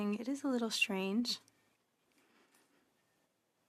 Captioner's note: speaking French